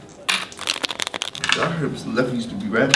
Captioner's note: shuffling Cards